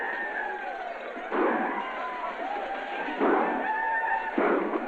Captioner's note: yelling and gunshots